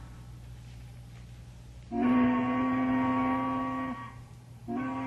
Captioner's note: siren